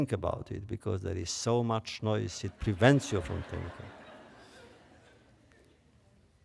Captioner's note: laughter